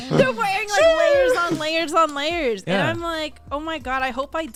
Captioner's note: laughs